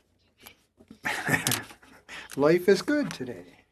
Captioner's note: speaking French